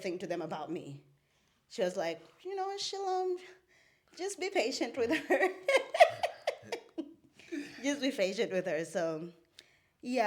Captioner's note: laughs